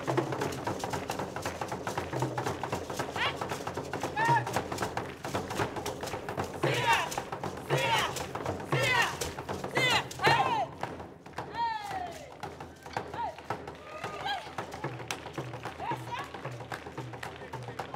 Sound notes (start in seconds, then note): 0.0 drums beating and beads rattling; 6.8 shouting and drums beating; 11.5 drums beating; 14.3 clapping and shouting